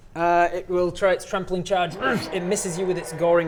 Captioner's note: grrr